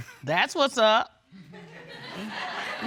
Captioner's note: all laughing